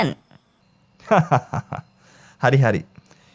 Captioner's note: laughing